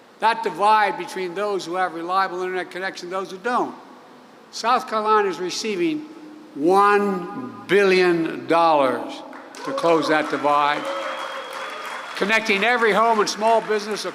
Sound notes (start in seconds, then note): 9.3 applause